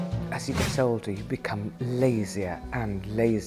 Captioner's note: none